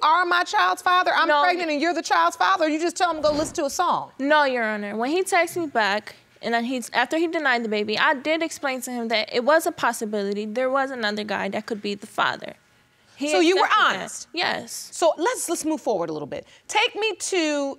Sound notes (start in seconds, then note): none